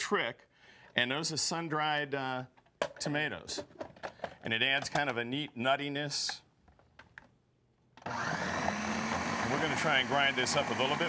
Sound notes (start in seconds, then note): 8.0 machine whirs